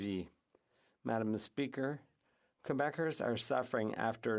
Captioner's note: speaking French